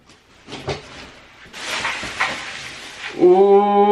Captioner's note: plastic crinkling